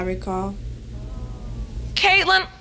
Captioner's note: audience sighs in sympathy